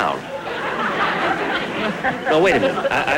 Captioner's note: audience Laughing